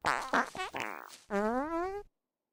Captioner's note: concerned Fart; fart